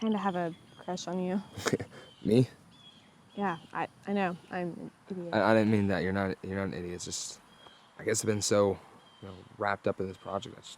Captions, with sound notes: - I kind of have a crush on you. (David chuckles) - Me? - Yeah, I know, I'm an idiot. - I didn't mean that. You're not an idiot. It's just I guess I've been so wrapped up in this project,